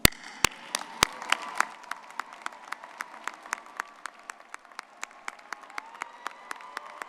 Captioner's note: crowd cheering; people applauding